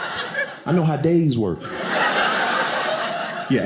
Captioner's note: audience laughing